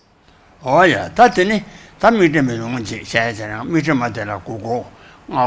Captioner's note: speaks foreign language